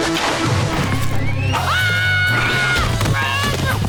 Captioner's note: screaming